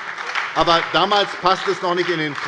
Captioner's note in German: Beifall bei der SPD